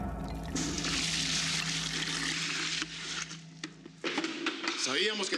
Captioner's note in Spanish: ruido del agua